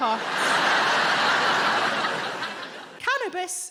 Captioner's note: audience laughing